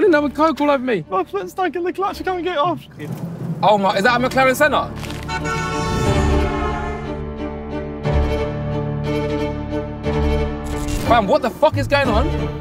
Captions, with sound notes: You gonna get coke all over me. - My foot is stuck in the clutch, I cannot get it off. - Oh my, is that a McLaren Senna? [car horn honking] [orchestral music] - Fam, what the fuck is going on?